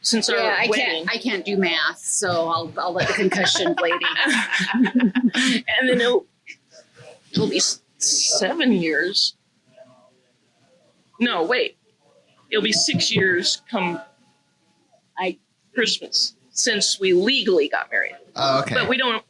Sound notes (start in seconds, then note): 2.9 laughs